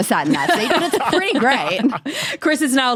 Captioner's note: laugh